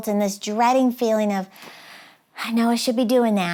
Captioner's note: sighs